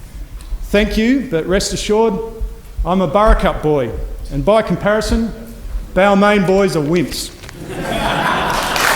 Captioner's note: applause